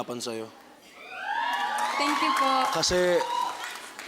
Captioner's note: crowd cheers, applauds